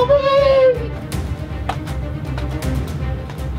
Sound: feet stomping

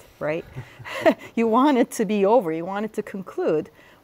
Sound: laughter

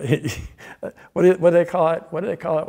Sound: laughs

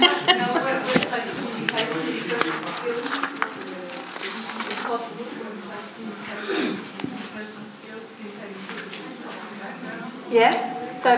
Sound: audience chatter

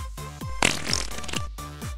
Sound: fart

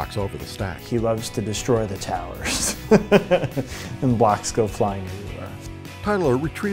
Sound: laughs

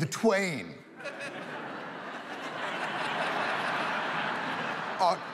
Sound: audience laughs

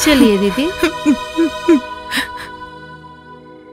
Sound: crying

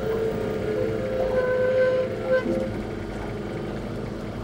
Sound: pulley creaking

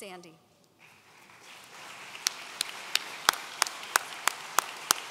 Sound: audience applauds

